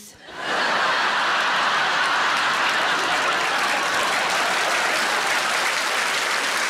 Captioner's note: audience laughing and applauding